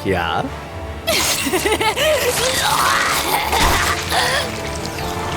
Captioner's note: laughing manically / gurgling